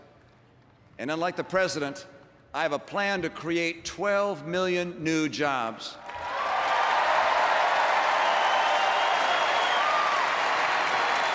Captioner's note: applause